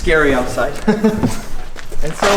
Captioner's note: laughs